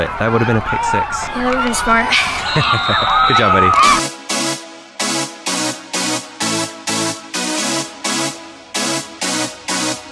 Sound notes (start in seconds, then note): 2.0 laughing; 4.3 upbeat music